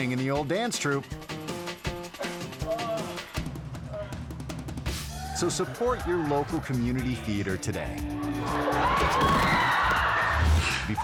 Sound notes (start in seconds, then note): 1.3 lively music; 2.1 moaning; 8.3 audience gasping